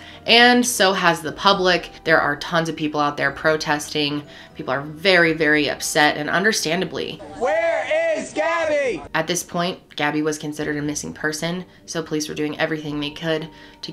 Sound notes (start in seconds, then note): 7.3 crowd